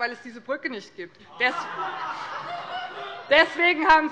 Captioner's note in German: Heiterkeit bei dem BÜNDNIS 90/DIE GRÜNEN